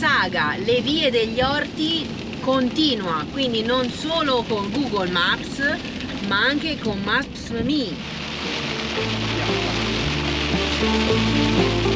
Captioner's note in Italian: Applauso